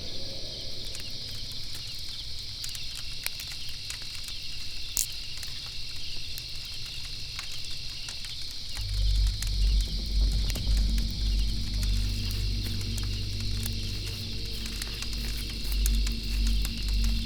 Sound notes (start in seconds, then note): 4.7 twig snaps; 8.6 fire crackling; 14.7 tense music